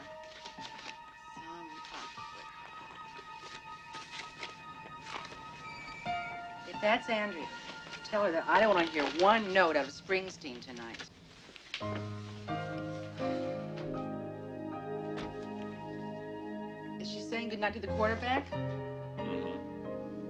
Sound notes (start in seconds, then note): 0.3 dramatic music; 5.7 tires screech; 11.9 dramatic music